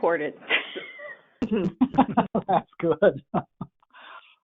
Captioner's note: laughing